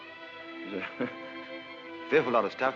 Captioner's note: crawley titters